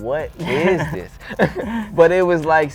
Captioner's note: laughs